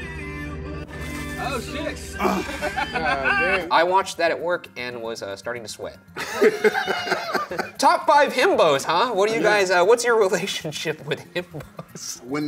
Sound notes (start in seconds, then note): 0.1 chill music; 2.1 laughs; 2.2 cameraman laughs; 6.2 laughs; 11.1 laughs